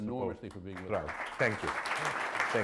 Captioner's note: applause